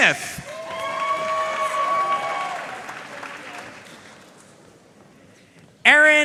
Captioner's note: audience cheering and applauding